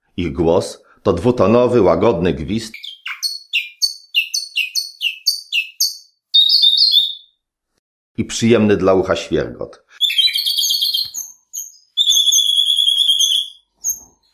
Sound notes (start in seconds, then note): 2.7 parrot whistling; 10.0 parrot singing